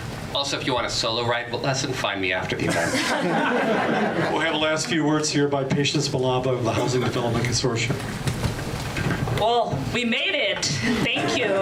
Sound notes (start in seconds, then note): 2.6 audience laughs